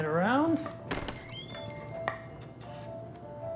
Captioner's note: bell jingling; gentle Christmas music